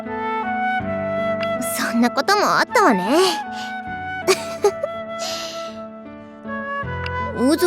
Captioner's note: giggle